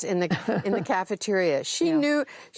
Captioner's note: laughter